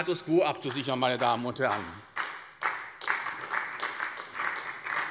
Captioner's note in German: Beifall bei der SPD